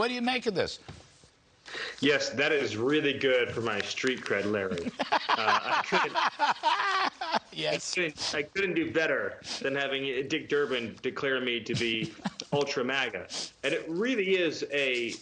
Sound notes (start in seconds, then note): 11.7 laughter